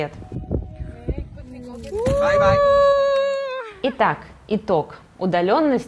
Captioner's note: cheerful screeming